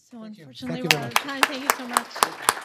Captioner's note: applause